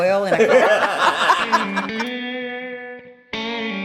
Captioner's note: laughs; guitar music